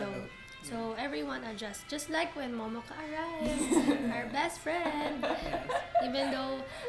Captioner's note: laughs